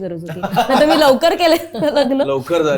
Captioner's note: chuckles